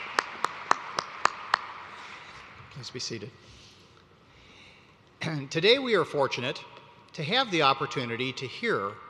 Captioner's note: applause